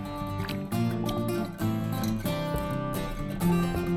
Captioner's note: water splashes